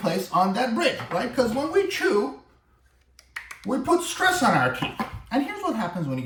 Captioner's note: tapping noise